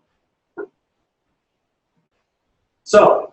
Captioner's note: pause